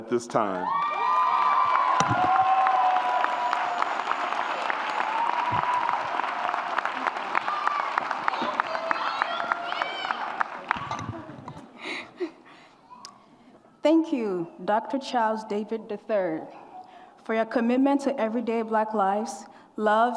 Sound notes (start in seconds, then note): 0.9 audience applauds and cheers